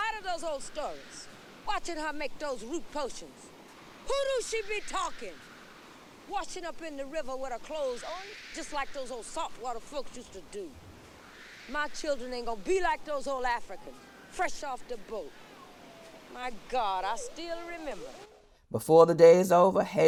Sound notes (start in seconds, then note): 3.5 water rushing in background